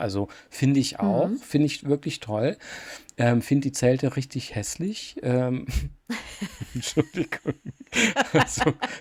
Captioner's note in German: gelächter